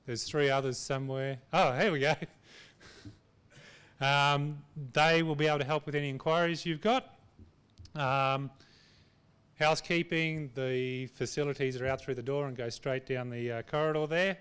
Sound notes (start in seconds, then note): 4.0 chuckles